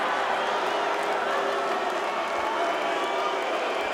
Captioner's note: booing and whistling